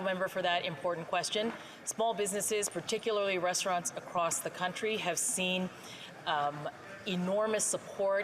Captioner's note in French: voix de l'interprète